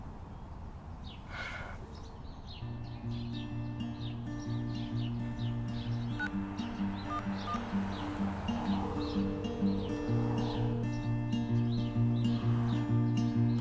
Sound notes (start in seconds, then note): 6.0 dial tone; 10.0 acoustic guitar music